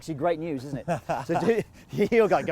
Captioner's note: laughs